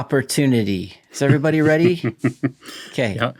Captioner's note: chuckling